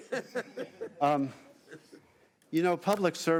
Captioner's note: laughing